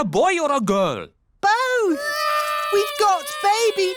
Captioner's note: babies cry